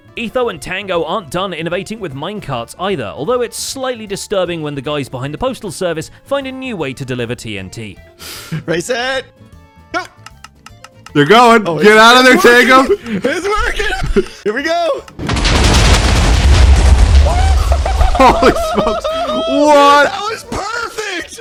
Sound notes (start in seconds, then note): 10.0 redstone ticking; 15.2 many explosions; 17.2 cheers